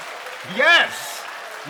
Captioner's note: cheers and applause